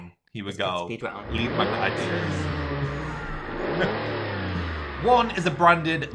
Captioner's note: car engine whining